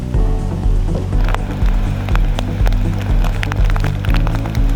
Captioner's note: rain pouring